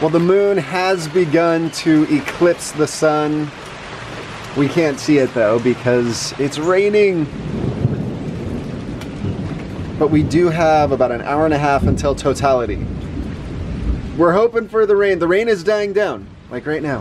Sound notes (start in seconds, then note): 7.2 thunder